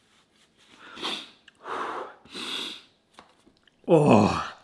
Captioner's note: breathing deeply